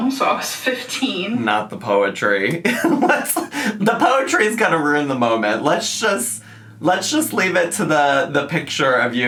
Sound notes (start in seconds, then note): 2.6 laughs